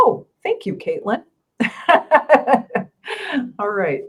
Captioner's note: laughing